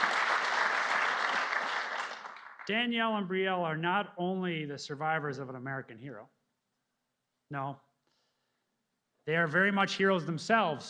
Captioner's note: applause